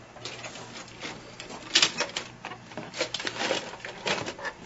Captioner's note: clattering